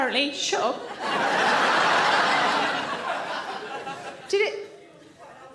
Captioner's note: audience laughs